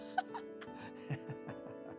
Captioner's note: laughing